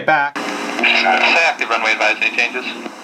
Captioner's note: voiceover